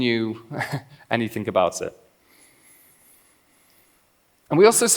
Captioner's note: laughs